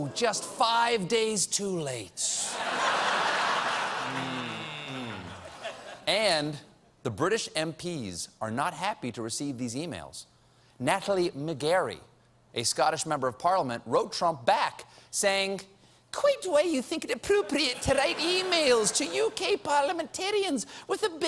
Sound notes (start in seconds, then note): 15.6 prim accent